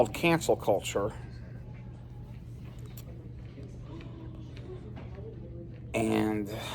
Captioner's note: Students at Purdue Fort Wayne's Neff Hall chattering